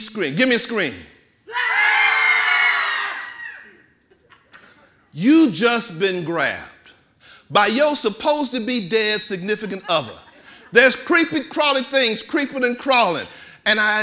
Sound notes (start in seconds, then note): 1.5 audience screaming